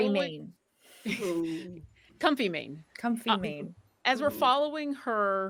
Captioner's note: laughs